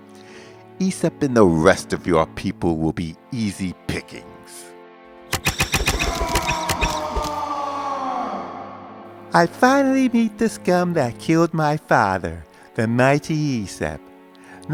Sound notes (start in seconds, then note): 5.4 arrow sounds; 6.0 loud roar